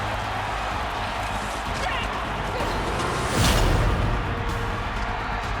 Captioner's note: crowd cheering